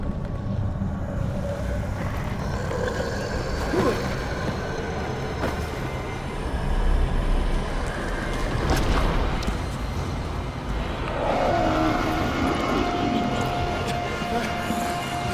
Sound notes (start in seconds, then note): 1.7 hoarse rattle; 4.0 startled gasp; 13.8 terrified panting